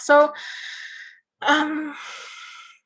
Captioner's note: sighs